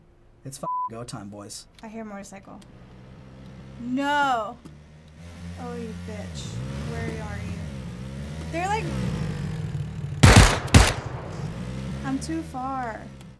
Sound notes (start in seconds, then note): 10.2 gun firing